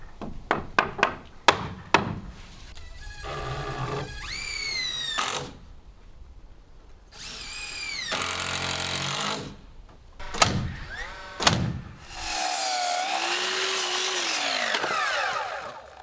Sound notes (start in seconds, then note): 2.8 drill buzzing; 10.2 nail gun popping; 10.2 saw grinding